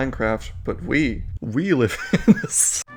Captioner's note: breaks down... laughing?